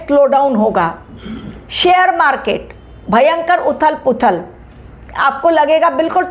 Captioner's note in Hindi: गला साफ़ करने की आवाज़